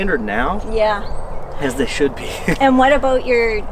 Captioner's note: laughs